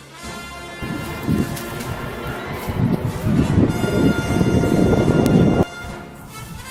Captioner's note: monster running